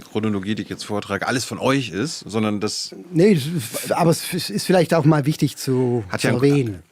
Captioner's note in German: gelächter